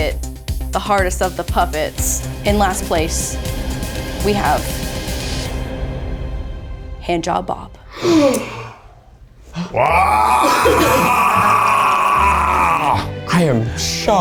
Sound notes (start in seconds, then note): 7.6 gasp; 9.5 groans